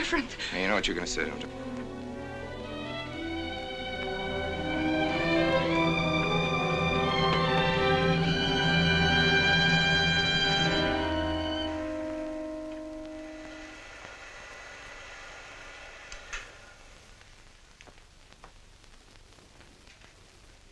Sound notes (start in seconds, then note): 15.6 film rolling